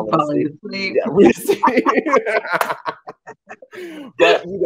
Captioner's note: laughing